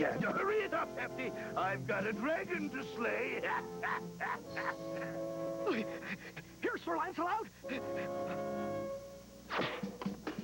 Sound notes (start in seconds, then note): 3.1 laughs; 5.6 gasping